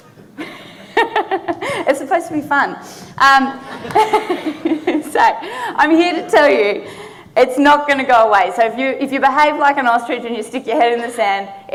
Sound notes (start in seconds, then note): 0.4 laughing; 3.6 audience laughing